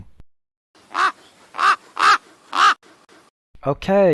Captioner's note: raven cawing